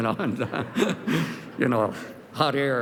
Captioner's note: laughter